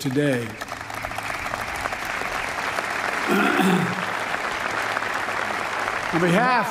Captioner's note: applause